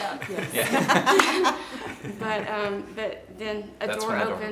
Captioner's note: laughing